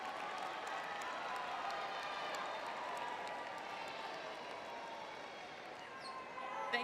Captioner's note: crowd cheering